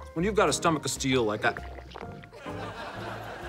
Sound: gurgling

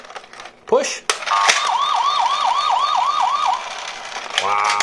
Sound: police sirens

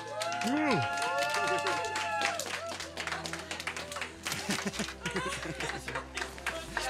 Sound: cheers

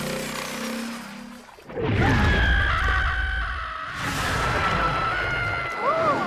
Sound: screaming

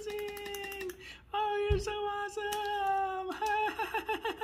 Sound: nervous laugh

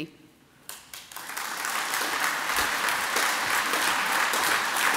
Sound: audience applauds

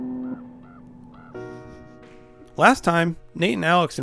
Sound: crow caws

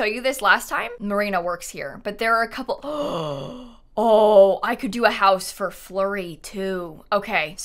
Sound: gasps

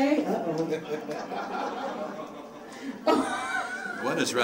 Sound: audience laughing

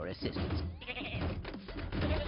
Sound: bleats

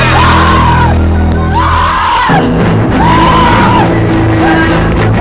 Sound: screaming; Toni screaming; groaning

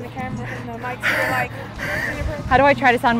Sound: breaths heavily

